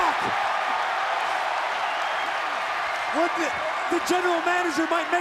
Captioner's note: applause